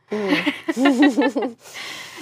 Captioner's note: laugh